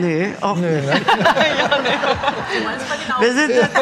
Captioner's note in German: Lachen, Gemurmel